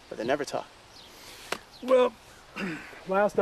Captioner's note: clears throat